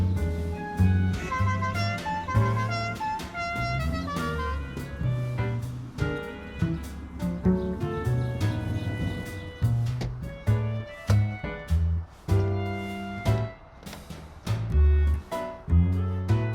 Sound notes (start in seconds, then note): 0.8 car honking; 1.2 groovy upbeat music; 9.7 groovy upbeat music; 10.0 door clicks open